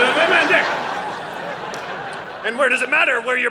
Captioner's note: audience laughing